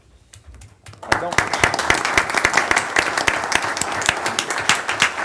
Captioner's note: audience applauding